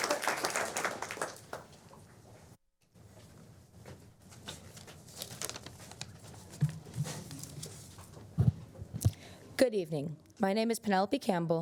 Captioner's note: applause